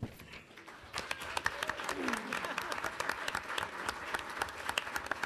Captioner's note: audience applauding